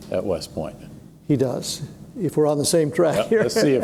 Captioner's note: chuckles